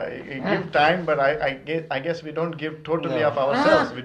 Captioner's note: laughs